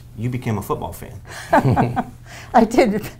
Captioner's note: chuckling